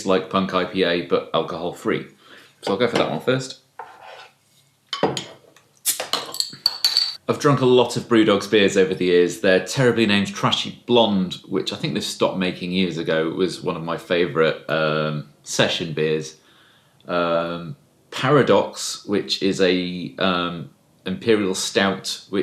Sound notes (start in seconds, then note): 6.1 bursting of air